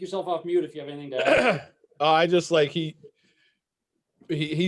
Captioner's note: clears throat